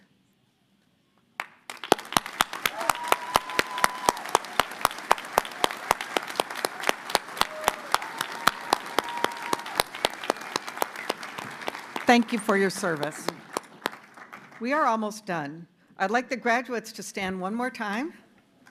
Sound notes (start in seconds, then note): 4.7 cheers and applause